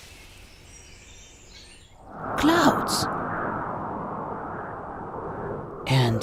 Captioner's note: wind blowing